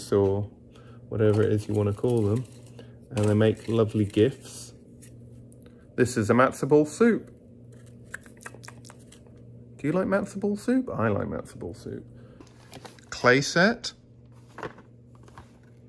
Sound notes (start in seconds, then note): 8.1 lips smacking